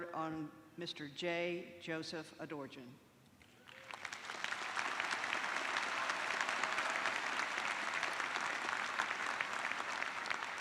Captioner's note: applause